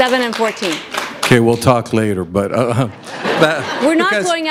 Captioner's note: laughter